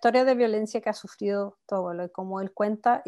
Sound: speaking Spanish

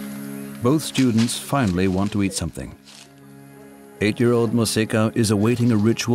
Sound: speaking in foreign language

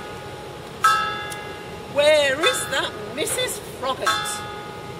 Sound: bell tolling

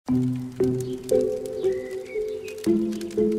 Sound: w/ fireplace ambience

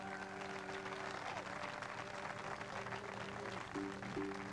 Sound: audience applauding

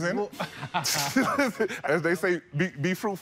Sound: laughter

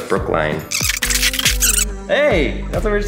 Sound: electronic whirring

